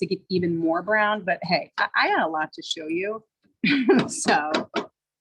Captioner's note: laughs